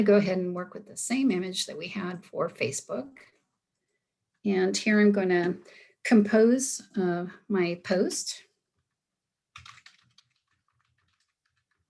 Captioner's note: sounds of typing on keyboard